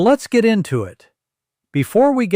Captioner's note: pause